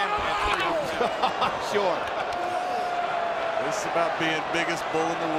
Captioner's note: laughs